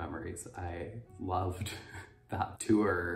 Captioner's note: laughs